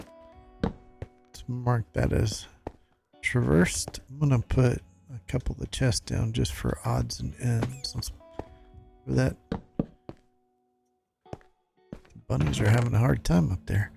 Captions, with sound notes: Let's mark that as traversed. I'm going to put a couple of the chests down just for odds and ends. [rabbit makes pain sound] Let's go for that. Bunnies are having a hard time up there.